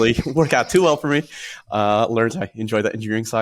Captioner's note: laughs